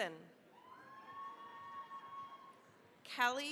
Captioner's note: cheering, applause